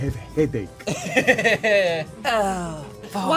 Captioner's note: laughing